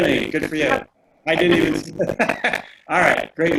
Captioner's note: laughing